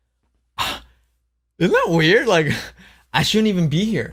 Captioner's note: laughs